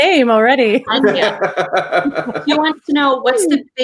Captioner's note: laughs